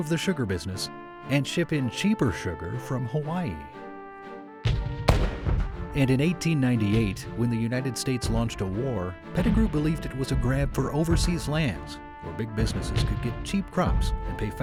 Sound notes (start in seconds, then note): 4.6 gunshot